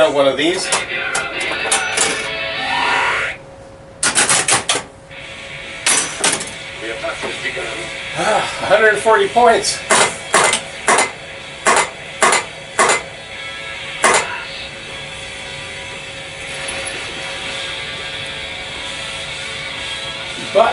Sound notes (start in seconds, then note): 8.1 exasperated sigh